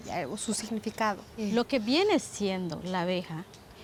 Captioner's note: speaking Spanish